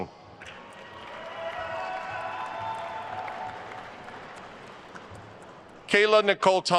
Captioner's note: attendees cheering and applauding